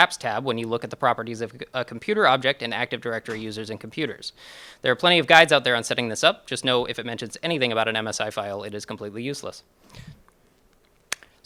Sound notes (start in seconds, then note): none